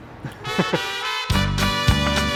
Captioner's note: chuckles; lively music